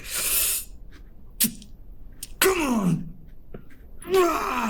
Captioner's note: hisses